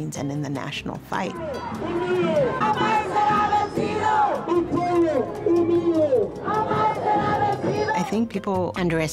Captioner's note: chanting